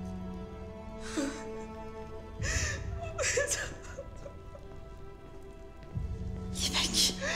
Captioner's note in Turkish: Ağlama Sesleri